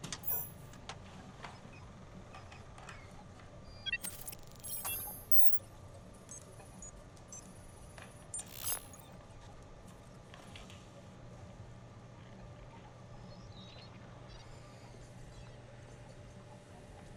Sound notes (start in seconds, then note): 4.0 digital startup noise; 6.1 digital keystrokes